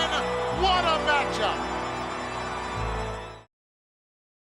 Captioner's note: crowd cheering